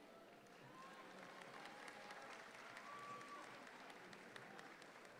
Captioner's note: audience claps